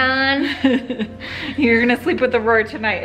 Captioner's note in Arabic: ضحكات خافتة من الكريستال